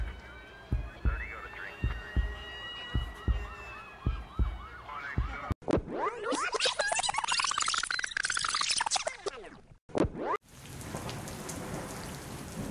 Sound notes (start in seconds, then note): 5.5 tape rewinding; 10.5 rain drops falling & thunder